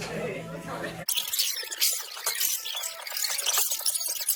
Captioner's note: the screeching sounds of sped-up video